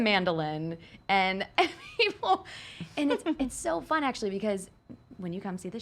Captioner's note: laughs